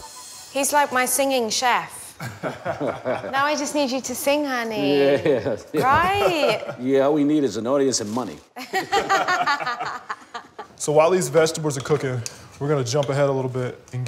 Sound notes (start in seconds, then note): 2.2 laughter; 8.6 laughter